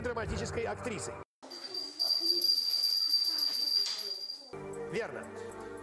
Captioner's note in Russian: звук колокольчика